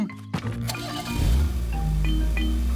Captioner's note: engine starting